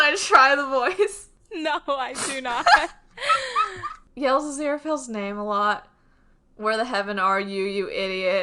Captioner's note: laughs